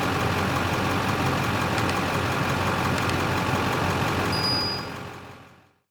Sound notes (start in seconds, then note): 2.9 click; 3.9 bell Ringing